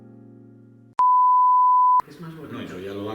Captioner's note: beep